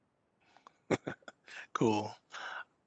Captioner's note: giggles